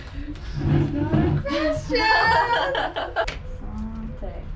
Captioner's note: laughs